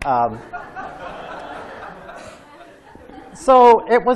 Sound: laughter

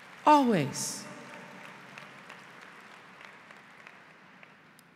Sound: applause

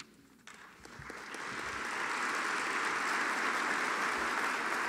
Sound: audience applauding

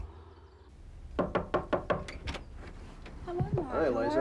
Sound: knocking

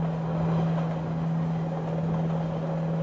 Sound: train swooshing along

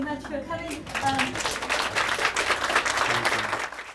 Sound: audience Clapping

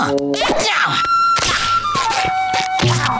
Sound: grunting; cracking

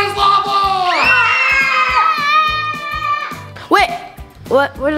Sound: kids scream

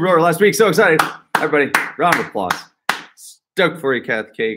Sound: clapping

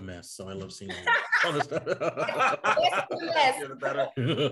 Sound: all laugh

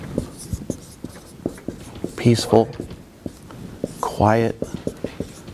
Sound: marker scribbling on board

